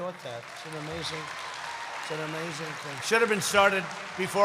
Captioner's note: applause